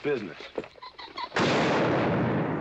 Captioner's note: gunshot